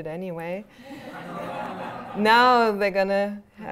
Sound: laughter

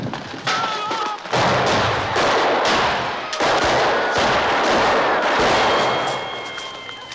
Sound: gunshots

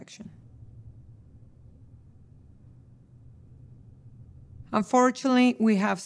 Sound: silence

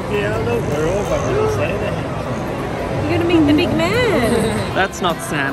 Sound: gasps

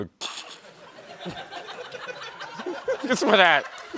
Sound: chuckling

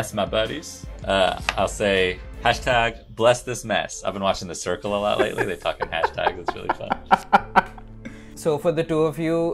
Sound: laughter

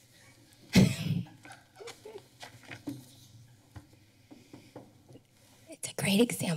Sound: laughter

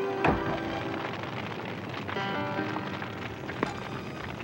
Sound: fire crackling

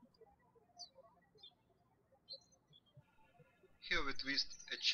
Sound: birds chirping

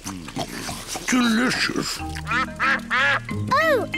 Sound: ducks quack

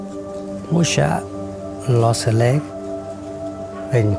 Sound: voiceover

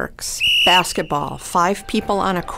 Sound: whistle blowing

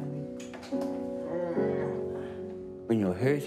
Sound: grunts happily

